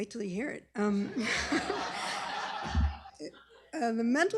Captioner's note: laughter